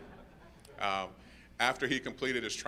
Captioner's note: laughter